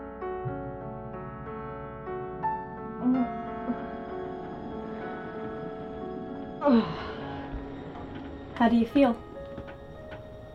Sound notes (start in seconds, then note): 0.9 moaning; 0.9 muffled running water